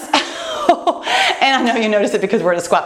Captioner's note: laughs